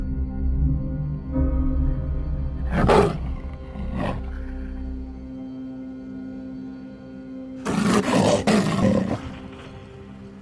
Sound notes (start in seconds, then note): 2.6 wolf snarling; 7.6 wolf growling